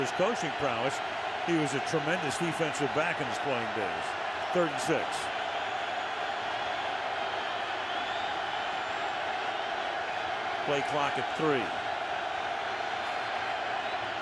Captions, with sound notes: And not just for his coaching prowess, he was a tremendous defensive back in his playing days. Third and 6. [crowd cheering] Play clock at 3.